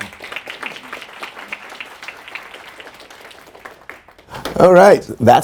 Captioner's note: audience applauding; people mumbling